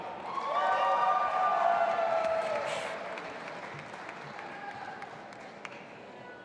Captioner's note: audience applauding and cheering